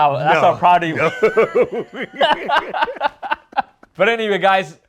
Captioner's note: they laugh